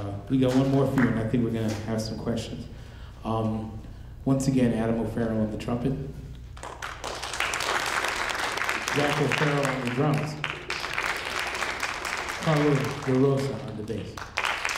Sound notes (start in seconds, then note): 6.7 audience applauding; 11.1 audience applauding